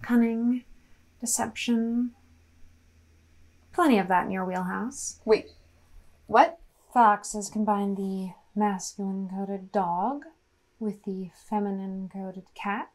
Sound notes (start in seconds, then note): none